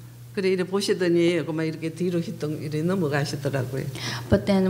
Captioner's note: speaking foreign language